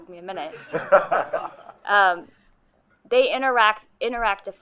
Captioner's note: group laughing